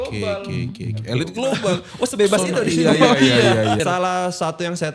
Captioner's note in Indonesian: tertawa